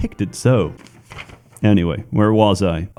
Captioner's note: rustling of papers